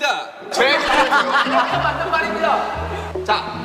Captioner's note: kekekekekekekeke